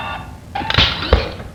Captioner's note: snap